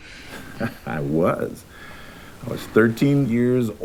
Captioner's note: chuckles